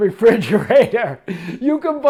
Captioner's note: laughs